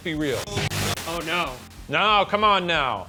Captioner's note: white noise